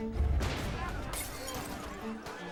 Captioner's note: shouting; glass shattering